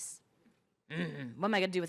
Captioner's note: grunting